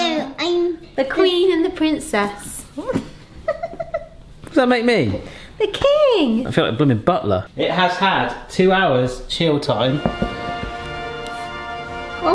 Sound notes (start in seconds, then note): 3.4 woman laughs; 9.9 triumphant music